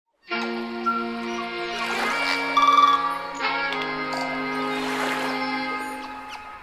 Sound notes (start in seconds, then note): 0.3 upbeat music; 0.7 nature sounds